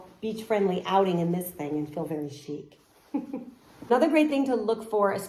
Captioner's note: chuckles